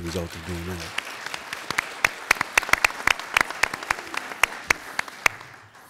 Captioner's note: applauding